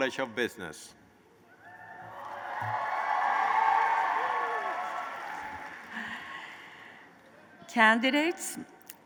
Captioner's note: applause